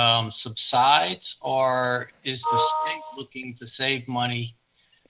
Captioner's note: computer tone dings